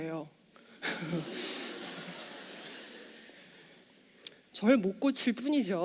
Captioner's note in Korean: 웃음